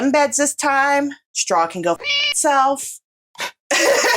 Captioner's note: meow